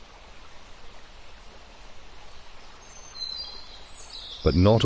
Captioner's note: birds chirping